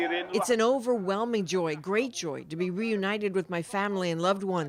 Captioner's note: speaking alternate language